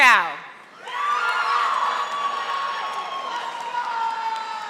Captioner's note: audience applauding